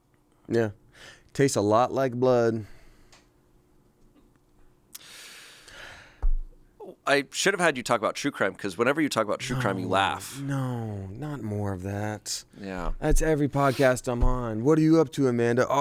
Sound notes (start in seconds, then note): 4.9 inhales